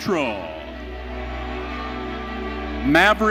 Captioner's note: audience cheering